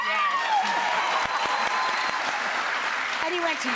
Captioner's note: applause